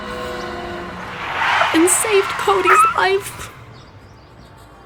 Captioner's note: tires screeching